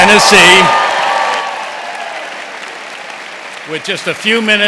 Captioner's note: cheers and applause